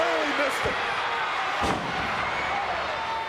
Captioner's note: thuds; crowd yelling